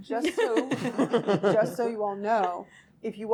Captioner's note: laughing